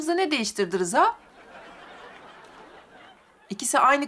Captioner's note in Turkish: Gülme efekti